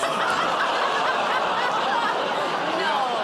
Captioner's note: laughter